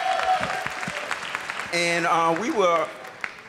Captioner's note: applause